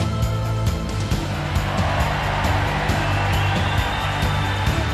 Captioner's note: crowd cheers